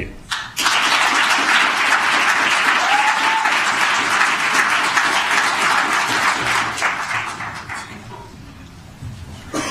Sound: applause

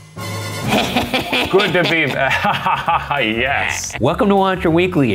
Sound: laughing

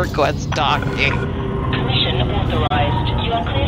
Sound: station bing

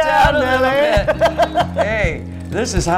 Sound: laugh

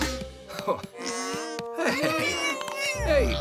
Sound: cries

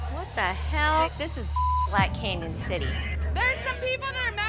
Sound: beep

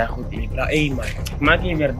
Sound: sucks Teeth

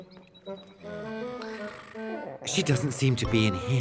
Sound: snoring

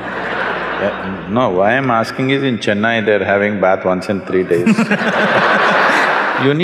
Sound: laughter; laughter

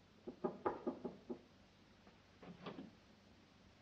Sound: tap, tap, tap

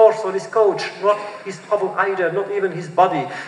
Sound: foreign language

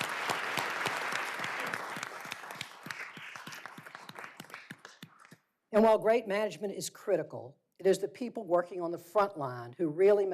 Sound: applause

